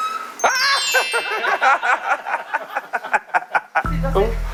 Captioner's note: triggers kettle-whistling sound reaction